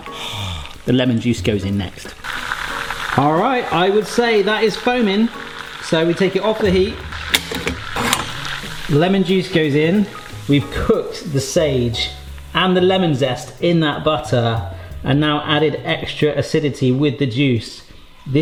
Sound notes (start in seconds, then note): 2.3 butter sizzling; 7.1 pan handle clinking